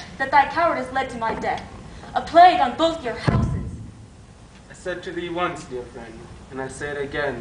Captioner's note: stomp